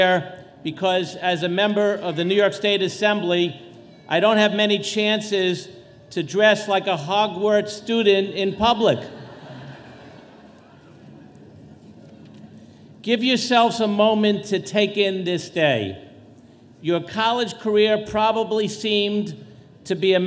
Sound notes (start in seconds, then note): 8.9 audience laughing